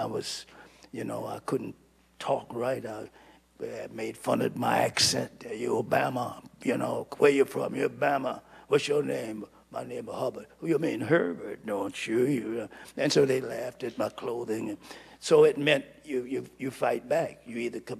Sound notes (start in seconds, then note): none